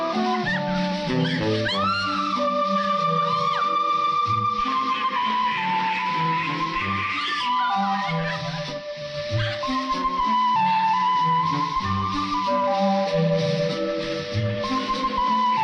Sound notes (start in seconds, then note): 4.8 ducks quaking; 8.2 light playful music continues